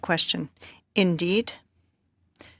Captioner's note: speaking French